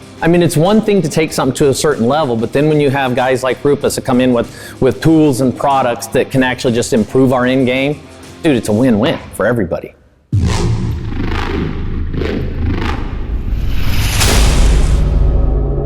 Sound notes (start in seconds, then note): 10.3 car engine revving